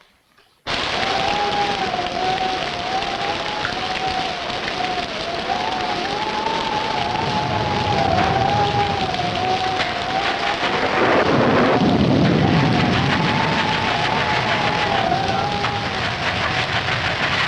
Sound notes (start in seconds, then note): 0.8 rain pattering; 0.8 wind howling; 10.5 engine sputtering; 10.5 thunder rumbling